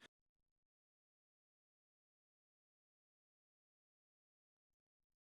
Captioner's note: audio cuts out